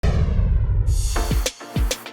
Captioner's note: whoosh; upbeat music